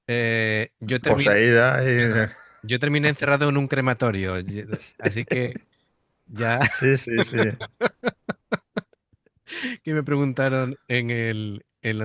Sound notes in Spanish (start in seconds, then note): 6.4 risas